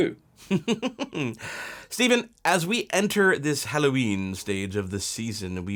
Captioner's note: laughs